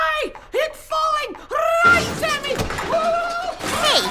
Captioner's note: panicked yelps